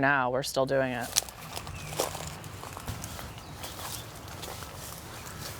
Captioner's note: plants rustling